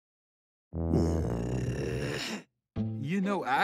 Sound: grumbles

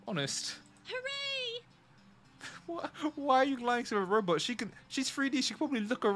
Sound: laughs

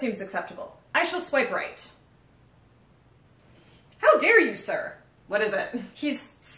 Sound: pause

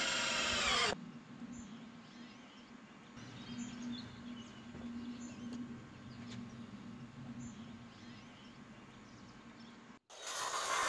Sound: drill whirring, saw buzzing, no additional audio

